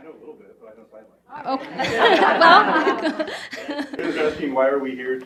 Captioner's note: audience laughs